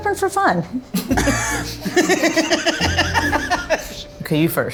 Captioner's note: group laughing